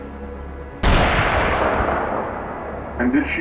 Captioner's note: gunshots fired